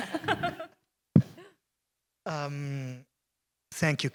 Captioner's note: laughter